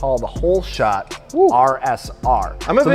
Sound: woos

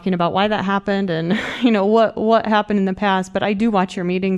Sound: laughter

